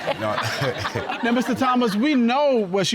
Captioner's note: all laughing